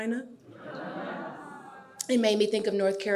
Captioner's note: audience laughing